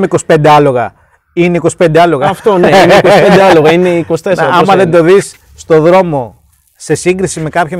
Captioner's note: both laugh